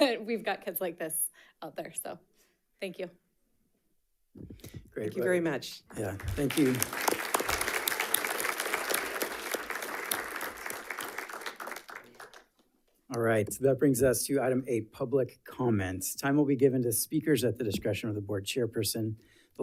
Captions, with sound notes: that we've got kids like this out there. So thank you. - Great. - Thank you very much. - Yeah, thank you. (audience applauding) All right, so that brings us to Item VIII, Public Comments. Time will be given to speakers at the discretion of the Board chairperson.